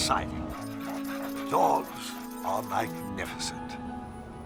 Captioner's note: dogs panting